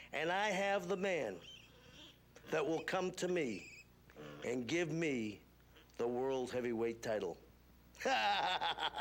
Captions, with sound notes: And I have the man that will come to me and give me the world's heavyweight title (cackling).